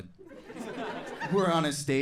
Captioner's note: audience laughing